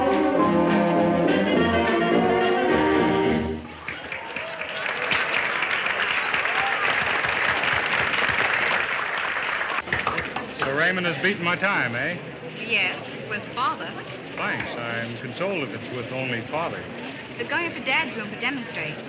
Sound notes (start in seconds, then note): 3.7 people applauding